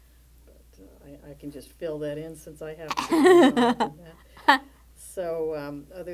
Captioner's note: laughter